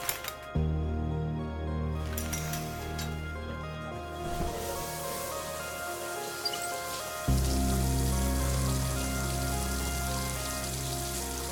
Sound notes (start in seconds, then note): 0.0 curtains rustle; 4.0 water hissing; 4.5 gentle, dramatic music